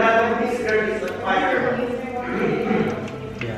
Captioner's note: crackling sound